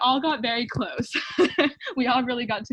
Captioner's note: laughing